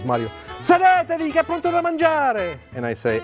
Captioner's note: speaking Italian